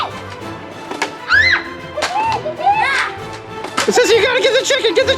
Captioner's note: screams